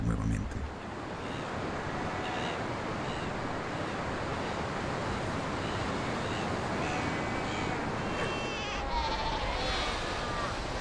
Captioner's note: oleaje